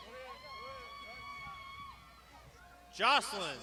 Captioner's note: crowd shouting